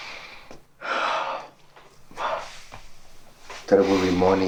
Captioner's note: Manny sighing